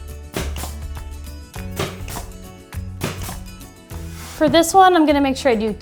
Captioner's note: nail gun popping